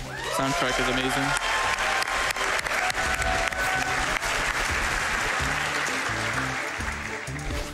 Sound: applause

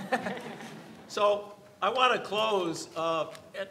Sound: everyone laughs

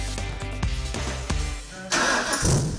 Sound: nat of engine starting up

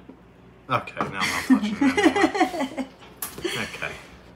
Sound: laughing

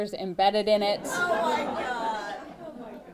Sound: laughter

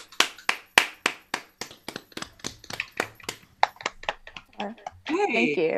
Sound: applause

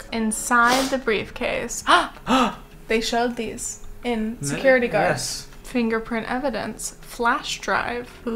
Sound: both gasp

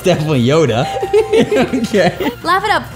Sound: laughter

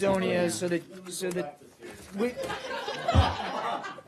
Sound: laughter

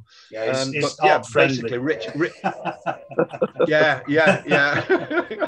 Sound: laughing and murmuring

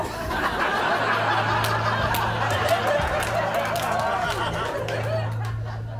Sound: laughter and applause

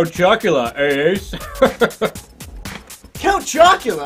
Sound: laughs

